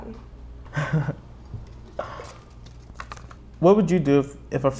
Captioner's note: laughing